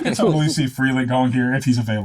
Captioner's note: laughing